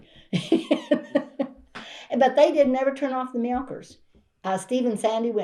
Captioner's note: laughs